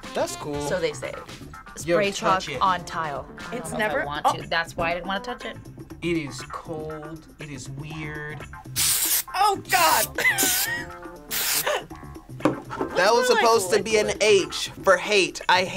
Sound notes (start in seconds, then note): 11.6 laughs